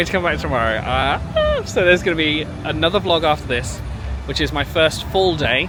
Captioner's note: squeal